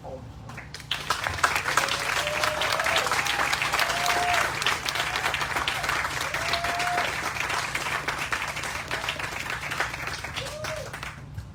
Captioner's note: applause